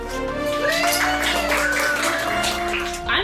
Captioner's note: applause